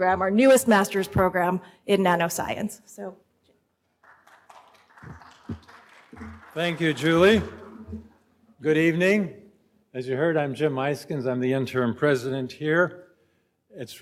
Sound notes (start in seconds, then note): 3.9 audience applauds